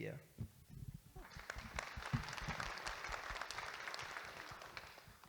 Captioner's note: audience Applauding